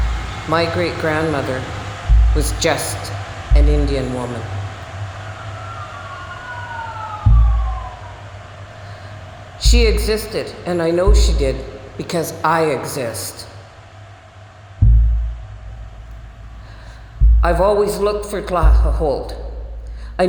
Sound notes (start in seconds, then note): 5.2 sirens